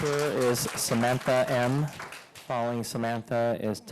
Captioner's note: applause